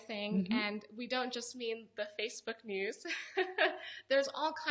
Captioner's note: laughs